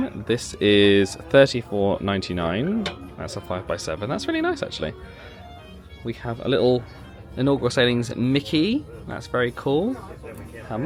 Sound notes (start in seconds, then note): none